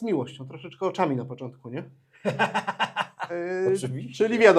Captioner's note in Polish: śmiech